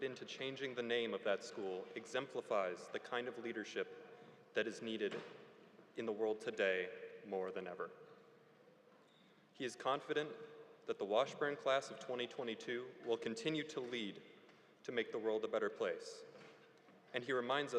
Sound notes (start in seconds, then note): none